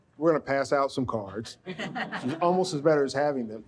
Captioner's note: audience laughs